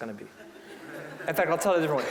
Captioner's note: audience laughing